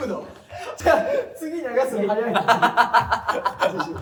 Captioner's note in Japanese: 笑い声